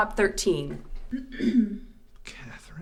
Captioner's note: throat clearing